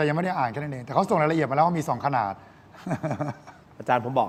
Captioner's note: laughter